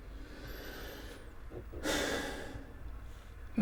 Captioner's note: exhales and sighs